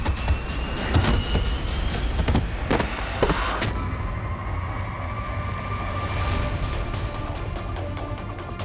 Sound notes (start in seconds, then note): 0.0 thudding sound